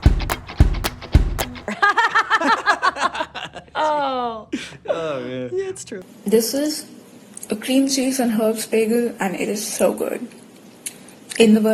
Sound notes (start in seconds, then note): 1.6 both laugh